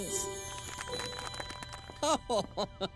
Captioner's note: crowd applauding; Uncle Owl laughing